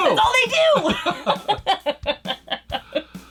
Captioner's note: both laugh